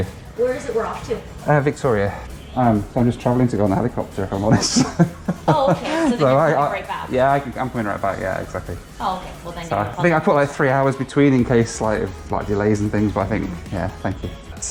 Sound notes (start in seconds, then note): 4.4 laughs